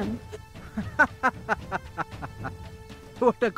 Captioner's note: Mr. Maithani laughs